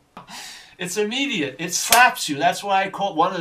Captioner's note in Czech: slaps